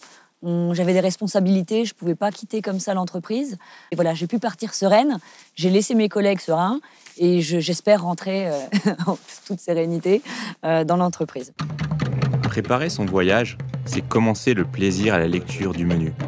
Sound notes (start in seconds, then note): 8.5 she laughs